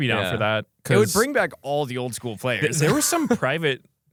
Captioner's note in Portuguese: risos